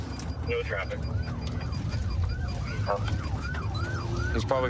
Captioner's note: sirens wailing